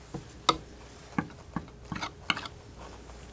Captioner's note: scratching